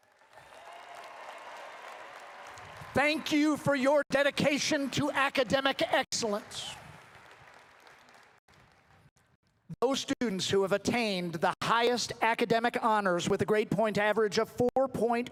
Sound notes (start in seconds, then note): 3.4 applause